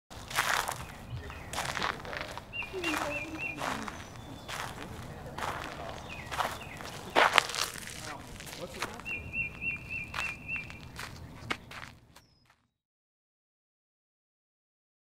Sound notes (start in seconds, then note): 0.9 gravel crunching underfoot; 3.5 birds chirping; 6.9 gravel crunching underfoot